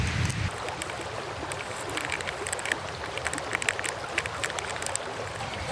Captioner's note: crinkling sound